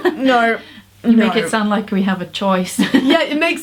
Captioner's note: laughs